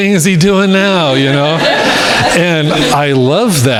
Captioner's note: crowd laughing